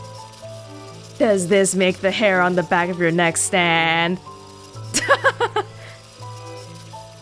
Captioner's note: chuckles